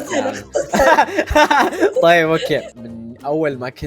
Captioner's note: laughs